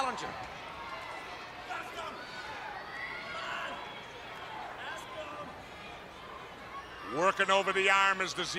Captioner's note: crowd chatter